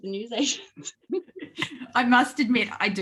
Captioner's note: both laugh